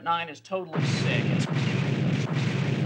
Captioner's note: crashing noise